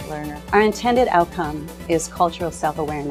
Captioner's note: voiceover